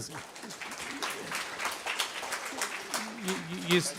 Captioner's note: audience clapping